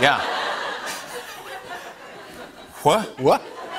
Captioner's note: laughter